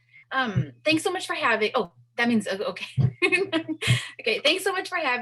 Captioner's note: laughs